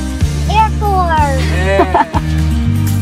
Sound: laughs

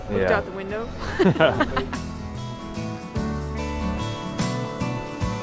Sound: laughs

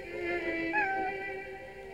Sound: cat meows

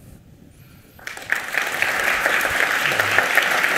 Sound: applause

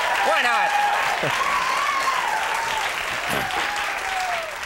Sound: audience cheers; audience cheering

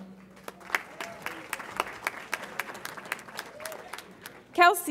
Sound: audience applauds

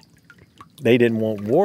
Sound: water flowing

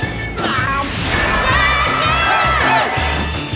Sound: crowd cheering

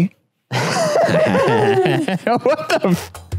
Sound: laughs

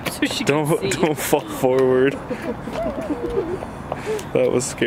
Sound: laughing

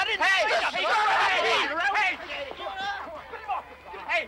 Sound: yelling

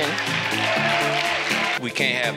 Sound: crowd clapping

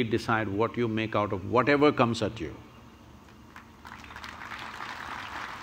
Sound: applause

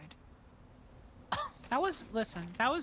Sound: scoff

